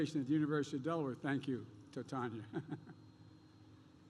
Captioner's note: laughs